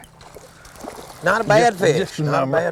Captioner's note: splash